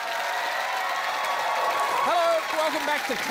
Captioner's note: cheering, applause